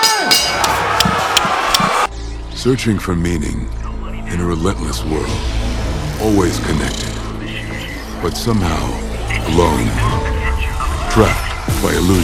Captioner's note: bell rings